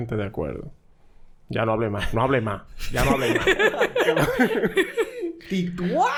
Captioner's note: laughs